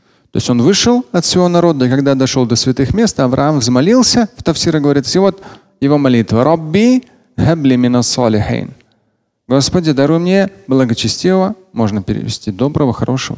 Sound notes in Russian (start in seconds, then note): 7.1 Говорит на арабском